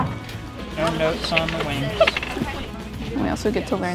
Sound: distant voice

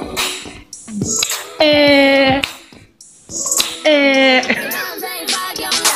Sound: laugh

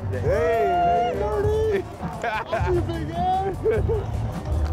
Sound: football players laughing

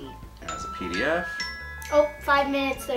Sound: chimes ringing

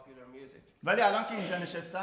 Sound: speaking in farsi

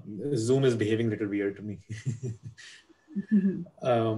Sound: giggling

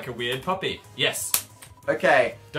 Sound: claps hands

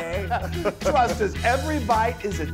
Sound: laugh

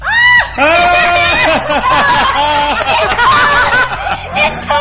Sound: laughs

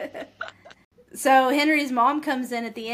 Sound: laughter

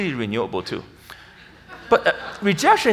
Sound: audience laughs

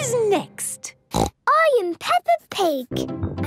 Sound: snorts

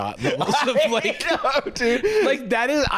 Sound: laughing

